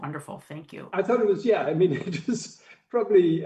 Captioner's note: laughs